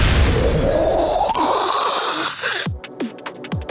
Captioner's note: making rocket noises